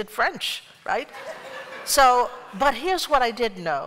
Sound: laughter

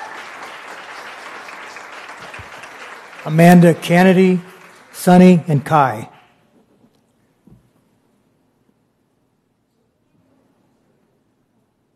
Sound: applause

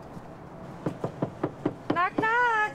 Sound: knocking on door

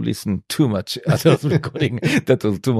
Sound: laughs

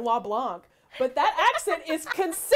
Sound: laughing

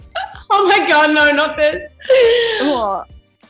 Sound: laughs

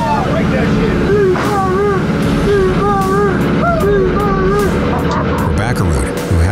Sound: muffled cheering; chuckles

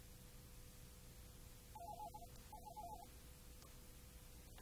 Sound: phone rings

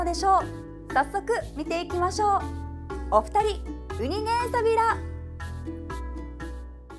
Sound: in Okinawan

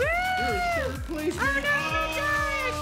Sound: cheering

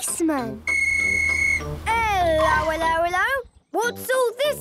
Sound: whistle blowing

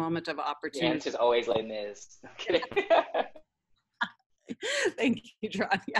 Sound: laughs

